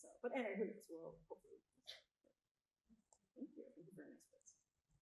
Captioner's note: faintly speaks